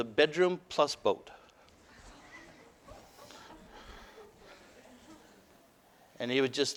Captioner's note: audience: Laughter